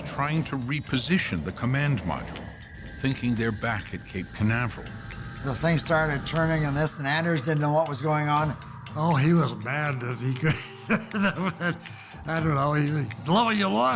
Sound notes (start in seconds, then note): 9.9 laughs